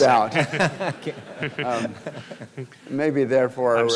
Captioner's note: laughter